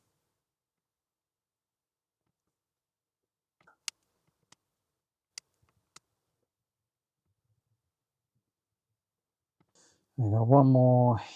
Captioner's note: silence